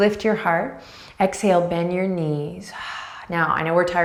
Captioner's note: breathing deeply